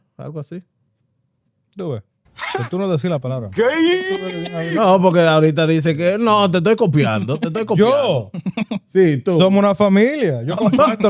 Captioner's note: speaking Spanish